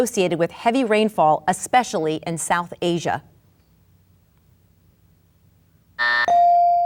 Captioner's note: bell buzzes